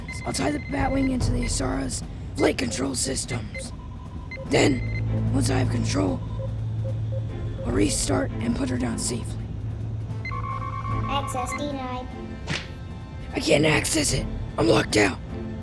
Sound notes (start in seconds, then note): 10.2 computer trills